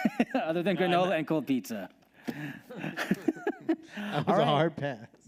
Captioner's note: laughs; laughs